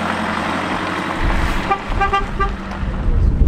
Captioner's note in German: Hupe